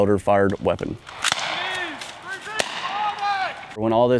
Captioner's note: gunshots